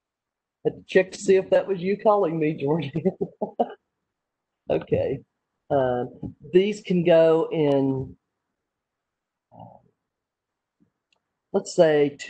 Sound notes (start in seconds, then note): 2.8 laughter